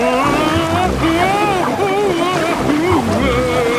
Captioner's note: Daddy Pig shouting